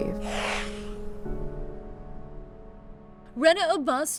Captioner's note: message whooshing